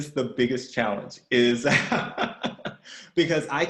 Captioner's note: laughs